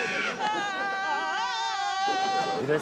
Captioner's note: all scream in unison